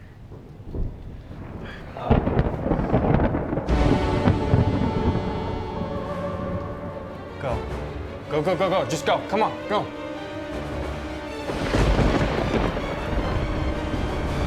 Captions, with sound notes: (thunder rumbles) (suspenseful ominous music) - Go, go, go, go, go. Just go, come on, go!